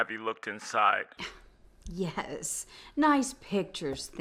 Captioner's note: scoffs